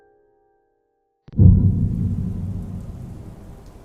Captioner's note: thunder, raining